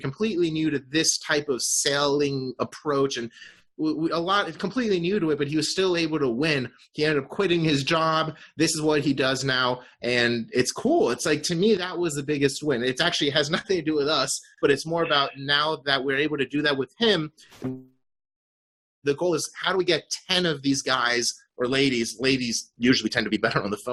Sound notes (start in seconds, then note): 17.6 electronic beep